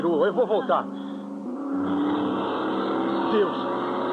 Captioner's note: engine revving